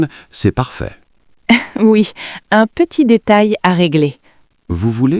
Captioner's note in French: rire